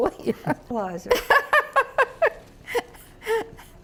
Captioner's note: laughter